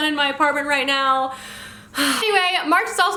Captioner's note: sighs